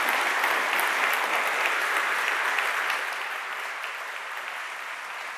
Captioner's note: applause